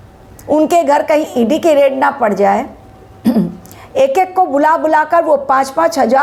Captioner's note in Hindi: गला साफ़ करने की आवाज़